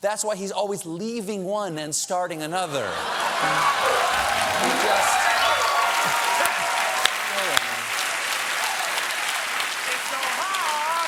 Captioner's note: cheers and applause